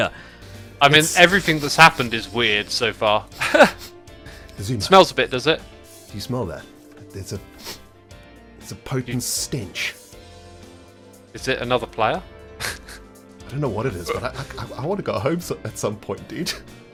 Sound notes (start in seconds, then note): 3.9 sniffs; 7.5 sniff